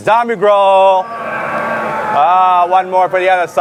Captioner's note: growling